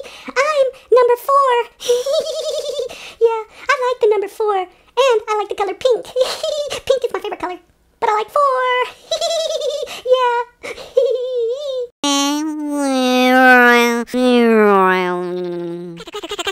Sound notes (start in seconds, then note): 12.0 funny motor sound